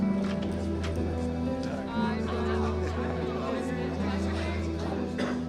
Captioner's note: indistinct chatter and laughter